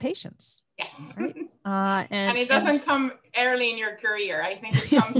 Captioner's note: laughs